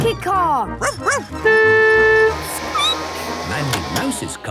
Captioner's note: barking; squeaking; honking